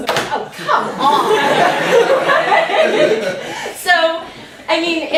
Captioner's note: laughter